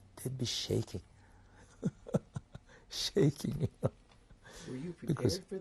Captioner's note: laughs